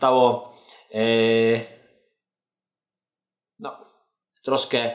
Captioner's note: stutters